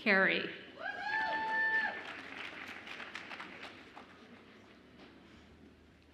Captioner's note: audience applauds and cheers